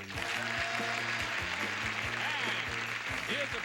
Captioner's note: audience applauding